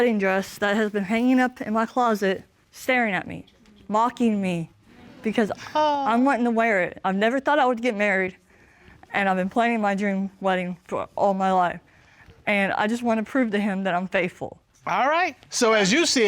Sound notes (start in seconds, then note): 6.3 awes